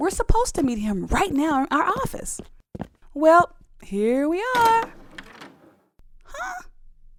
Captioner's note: door opens